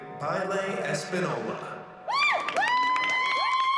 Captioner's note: applause and cheering